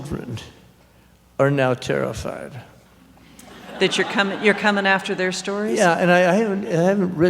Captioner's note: laughter